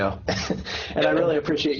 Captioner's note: laughs